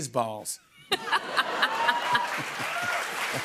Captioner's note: laughter; cheers and applause